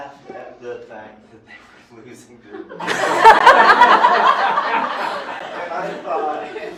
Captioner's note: laughter